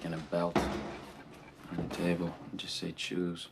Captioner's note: feet thumping